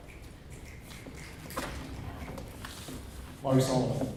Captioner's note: crowd snapping